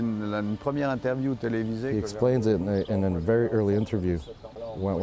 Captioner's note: speaking foreign